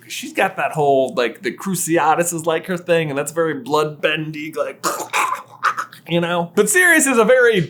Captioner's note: force choke noises